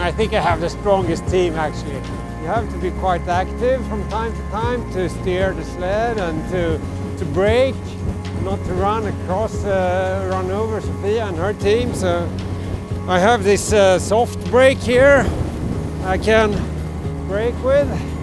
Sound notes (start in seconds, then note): none